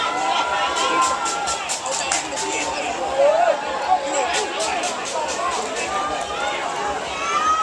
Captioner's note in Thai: ปรบมือ